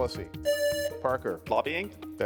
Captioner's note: buzzer rings